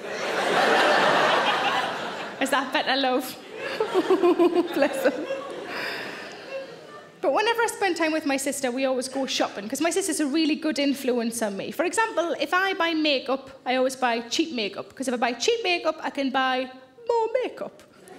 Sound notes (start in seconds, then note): 0.0 audience laughing; 3.4 laughs; 18.0 audience laughing